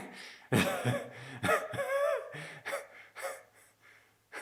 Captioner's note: Jacob laughing